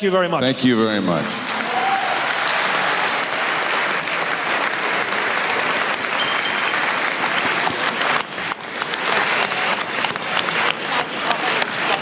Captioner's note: applause